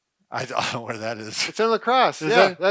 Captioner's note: chuckles